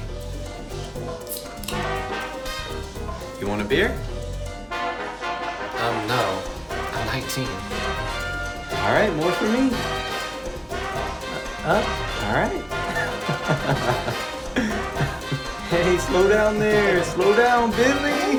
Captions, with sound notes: You want a beer? - Um, no. I'm 19. - Alright, more for me. Uh, alright. (laughing) Hey, slow down there, slow down, Billy.